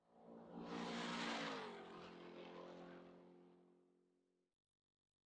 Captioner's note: car engine racing